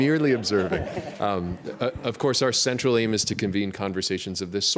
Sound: laughter

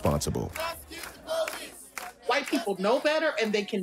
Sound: chanting

